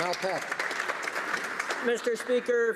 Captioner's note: some Applause